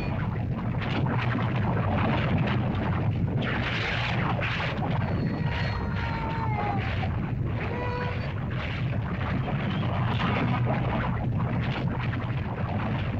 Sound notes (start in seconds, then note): 0.1 lava bubbles & flows; 5.0 Wandi cries; 7.9 lava bubbles & flows